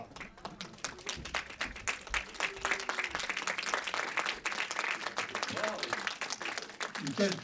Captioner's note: applause